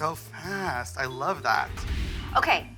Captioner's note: air whooshing